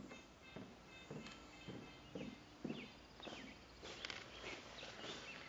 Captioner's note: footsteps on stairs